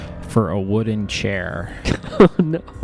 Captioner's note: laughing